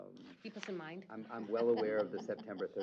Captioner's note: chuckle